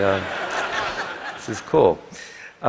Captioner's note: laughter